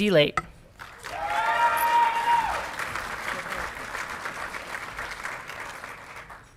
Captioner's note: audience clapping and cheering